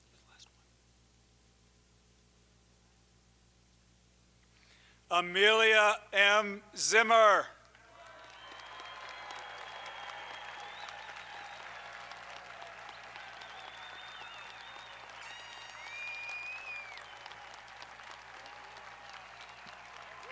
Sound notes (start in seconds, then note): 8.1 audience applauding; 8.1 audience cheering